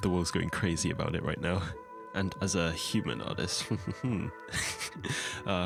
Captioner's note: laugh of superiority